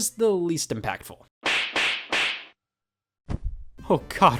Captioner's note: 3 knee slaps